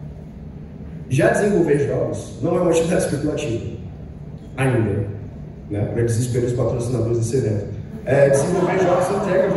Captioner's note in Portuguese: risos